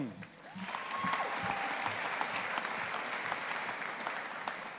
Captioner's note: audience applauding